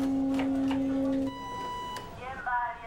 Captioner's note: liemba horn blaring; P.A. beeping